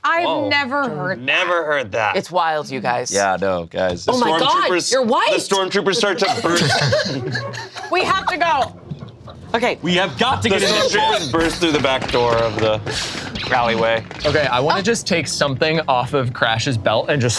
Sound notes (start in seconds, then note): 5.5 group laughs; 6.8 crew laughs